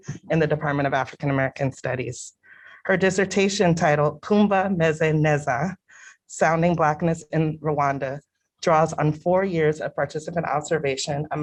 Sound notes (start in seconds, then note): 4.7 non-english